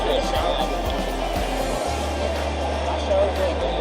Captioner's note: crowd noise